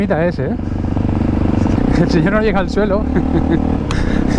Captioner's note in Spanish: risas